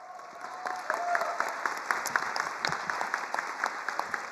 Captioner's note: attendees applauding